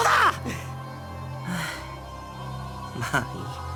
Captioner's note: weary sigh